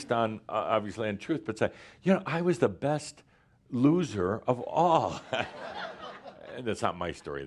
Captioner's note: laughter